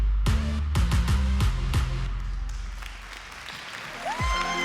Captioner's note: crowd cheering